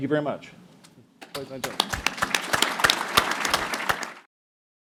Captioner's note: applause